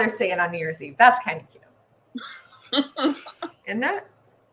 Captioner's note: laughing